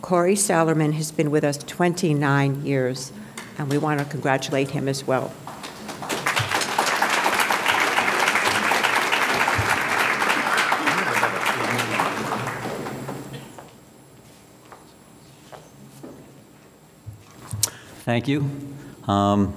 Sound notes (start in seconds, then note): 5.4 audience clapping